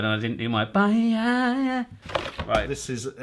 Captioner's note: impersonating seal comically